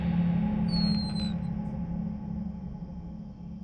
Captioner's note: door squeaks